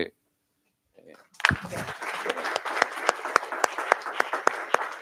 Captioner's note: applause